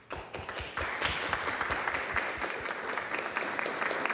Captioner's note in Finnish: Aplodeja